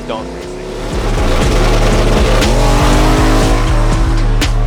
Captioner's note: engine revving